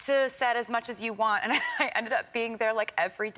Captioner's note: laughs